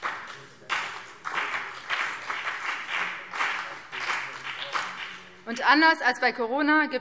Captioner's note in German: Beifall BÜNDNIS 90/DIE GRÜNEN und CDU